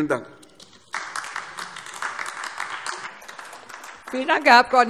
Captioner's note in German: Beifall AfD